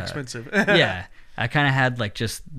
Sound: soft laughs

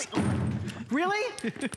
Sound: laughter

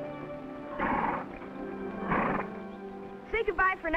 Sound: horse snorting

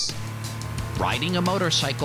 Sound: motorcycle engine revving

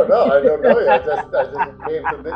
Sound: client laughing; laughs

